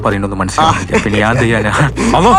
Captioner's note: laughs